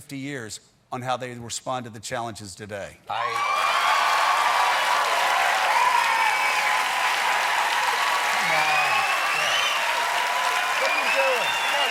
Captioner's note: cheers and applause